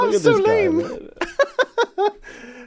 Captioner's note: laughs